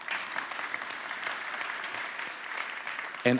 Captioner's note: applause